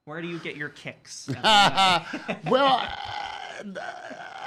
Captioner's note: laughs